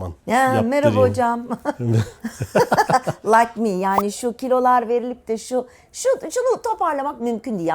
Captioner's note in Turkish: kahkaha